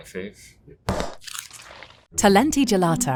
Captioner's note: tub thudding